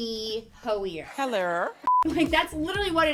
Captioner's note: beep